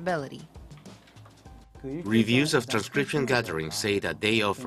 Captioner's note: Korean